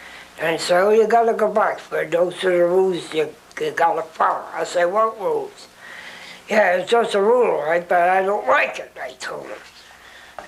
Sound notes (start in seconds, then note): none